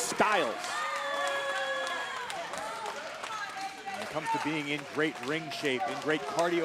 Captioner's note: applause